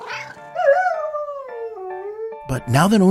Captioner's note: dog barks; dog howls; cat meows